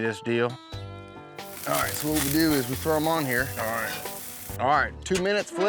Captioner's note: sizzling sounds